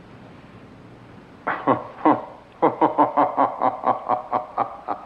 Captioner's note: laughing